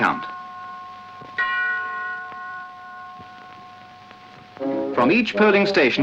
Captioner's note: bell tolls